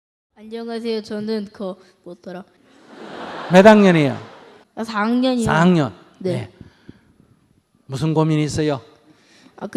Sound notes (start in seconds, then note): 2.8 audience laughter